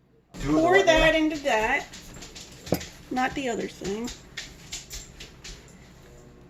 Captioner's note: liquid pouring